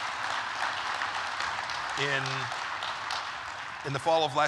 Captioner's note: applause